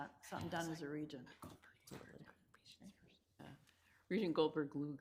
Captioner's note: members whispering